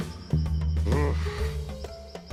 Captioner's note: groans